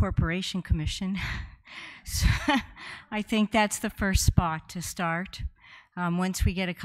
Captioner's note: laughs